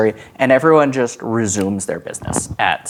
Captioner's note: snaps